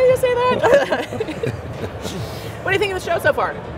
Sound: all laughing

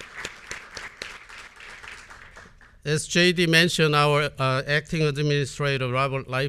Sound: applause

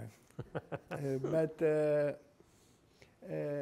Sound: laughing

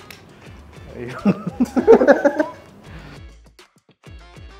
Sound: laughing

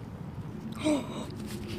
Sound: gasp

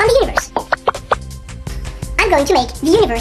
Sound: sound: pop - pop - pop

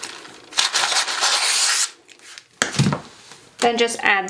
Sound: paper rustling

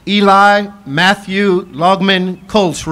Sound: none

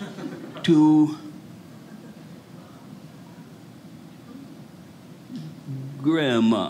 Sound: audience laughing

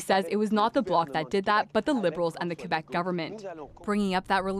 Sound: speaking French

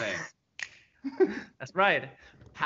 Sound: laughs

